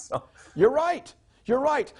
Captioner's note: laughing